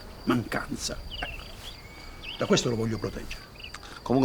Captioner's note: none